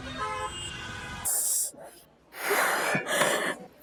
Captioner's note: gasps